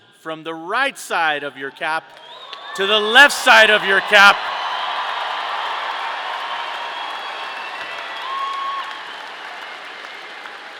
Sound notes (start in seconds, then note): 5.3 audience applauding; 5.3 audience cheering